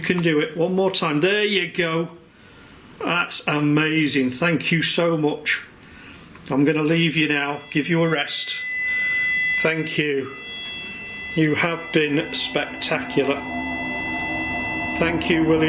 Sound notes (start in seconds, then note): 7.7 machine beeping; 13.9 eerie music